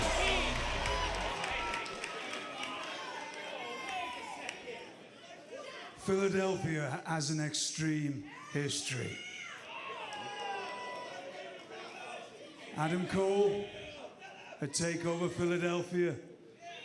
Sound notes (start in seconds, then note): 7.8 crowd chatter